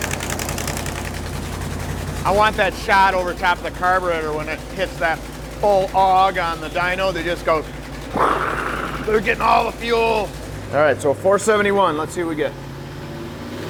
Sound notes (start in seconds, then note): 8.0 imitating engine